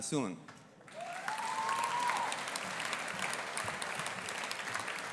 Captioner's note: audience applauding